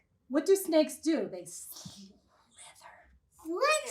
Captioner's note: whispers